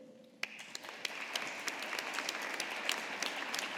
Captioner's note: audience applauding